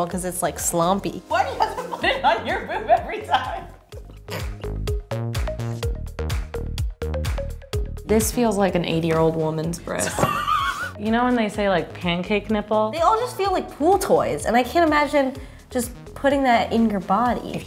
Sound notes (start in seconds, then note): 4.1 upbeat electronic music; 10.0 laughing